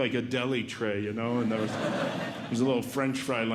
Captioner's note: audience Laughing